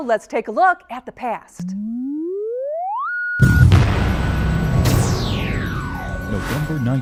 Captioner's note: sound Effects